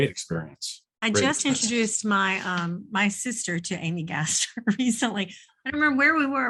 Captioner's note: chuckles